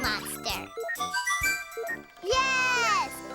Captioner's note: whistles